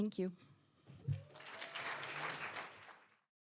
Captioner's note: applause